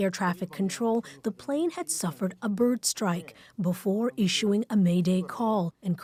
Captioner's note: speaking alternate language